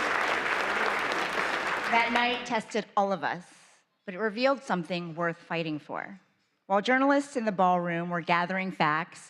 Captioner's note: applause